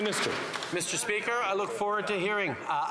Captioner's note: some Applause